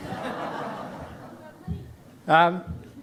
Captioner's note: audience chuckling